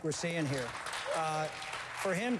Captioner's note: applause